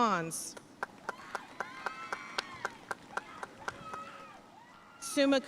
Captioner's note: audience cheering and applauding